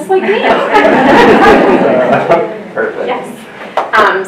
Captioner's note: laughter